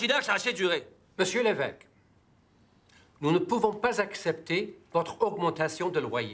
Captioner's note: speaking in foreign language